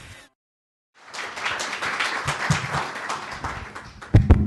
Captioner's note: applause